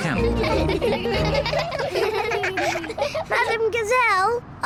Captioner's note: all giggle